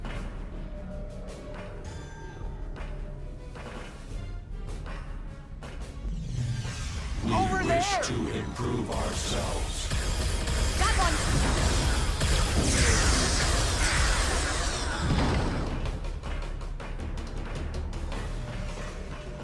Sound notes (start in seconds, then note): 12.7 explosion; 14.3 tense music